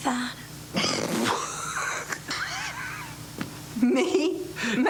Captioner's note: chuckling